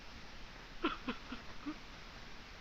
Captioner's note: sobbing